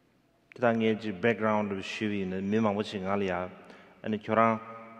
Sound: speaking in foreign language

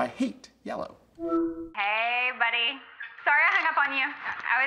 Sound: on phone

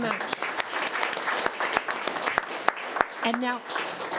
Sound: audience applauding

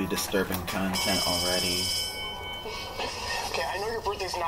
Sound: bell Ringing

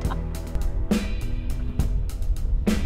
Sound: laughter

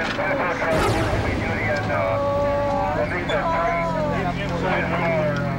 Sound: groaning

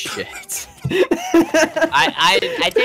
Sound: laughs

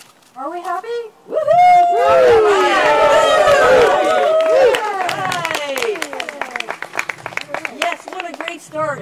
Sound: cheers

